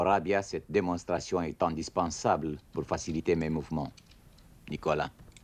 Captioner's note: speaking French